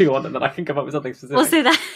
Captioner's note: laughing